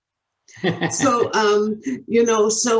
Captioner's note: laughs